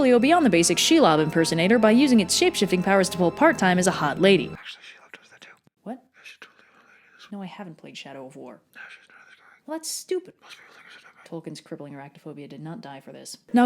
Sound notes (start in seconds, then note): 4.5 whispers; 8.7 whispers